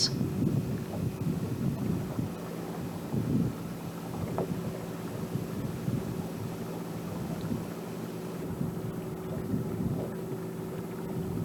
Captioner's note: water sounds